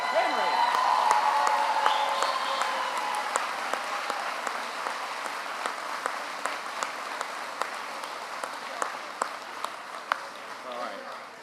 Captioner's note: applause